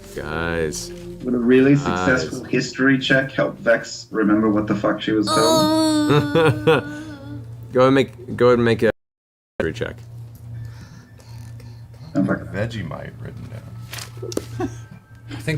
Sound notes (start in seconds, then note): 5.3 laughs